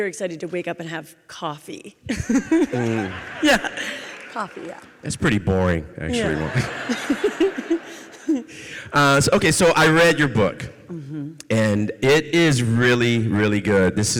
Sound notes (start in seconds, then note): 2.7 audience cheering; 6.1 audience laughs